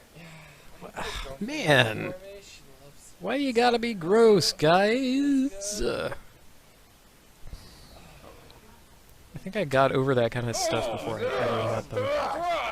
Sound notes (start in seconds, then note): 0.1 exasperated sigh